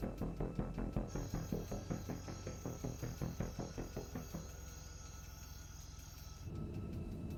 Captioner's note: suspenseful music continues; crickets chirping